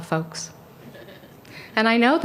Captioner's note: laughter